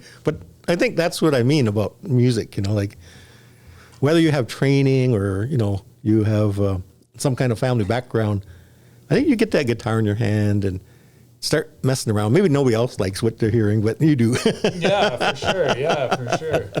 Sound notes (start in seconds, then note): 14.3 laughs